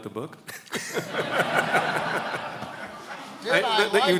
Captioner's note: laughs